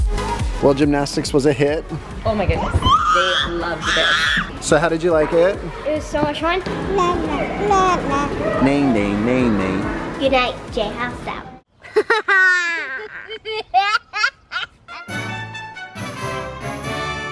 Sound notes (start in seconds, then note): 6.9 babbling; 11.8 laughs